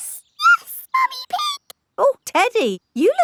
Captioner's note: in high-pitched voice